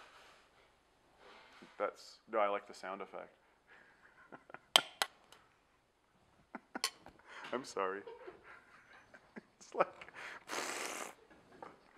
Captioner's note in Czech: člen štábu smrká